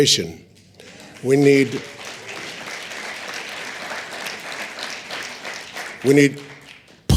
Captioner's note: applause